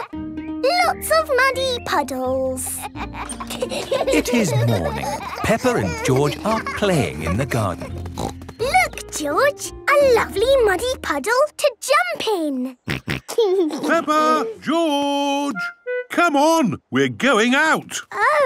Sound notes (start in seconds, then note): 7.8 snorting; 13.4 snorting and giggling